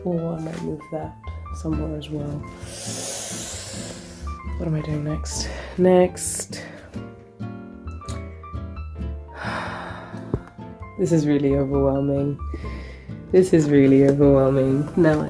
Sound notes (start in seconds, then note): 9.4 exasperated sigh